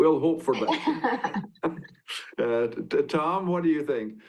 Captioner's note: laughing